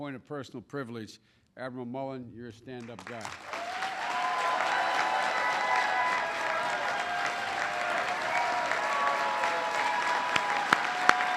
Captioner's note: applause